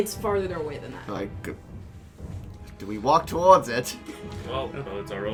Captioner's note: Lucretius voice